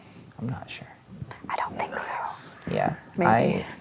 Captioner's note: whispers